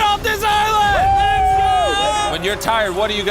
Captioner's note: cheering